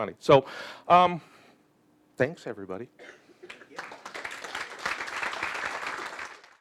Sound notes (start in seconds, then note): 3.4 audience applauding